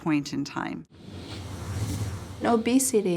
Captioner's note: whooshing